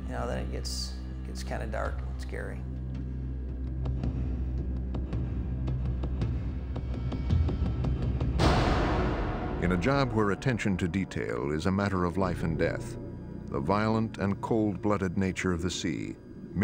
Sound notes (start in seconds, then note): 3.1 suspenseful instrumental music; 9.6 voiceover